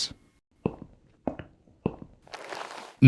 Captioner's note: footsteps